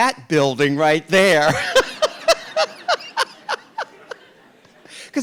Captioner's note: RuPaul laughs